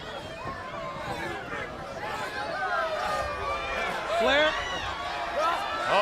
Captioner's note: crowd chatter